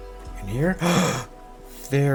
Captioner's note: gasp